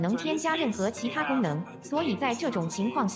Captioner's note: non-english